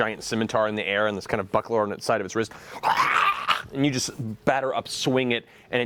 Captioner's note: zombie snarling